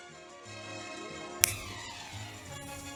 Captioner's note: snaps